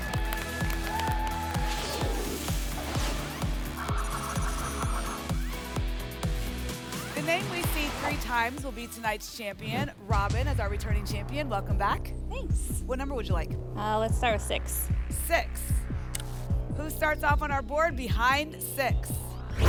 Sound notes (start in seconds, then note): 1.7 whoosh; 3.7 spinning sounds